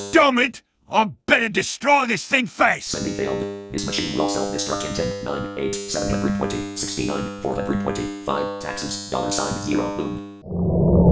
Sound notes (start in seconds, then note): 3.1 in RoboSoft Two's voice